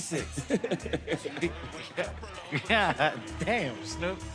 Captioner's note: laughter